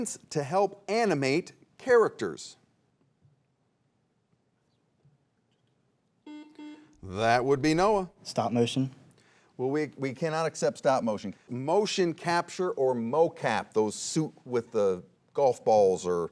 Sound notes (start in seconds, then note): 6.2 buzzer beeps